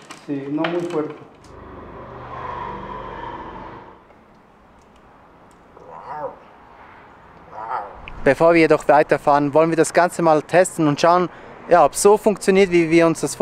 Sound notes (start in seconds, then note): 5.7 makes animal noises